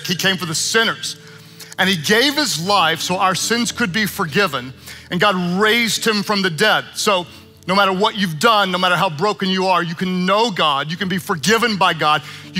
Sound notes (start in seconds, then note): none